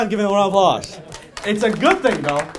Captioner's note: and audience clapping